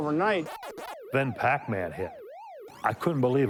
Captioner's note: Pac Man game sounds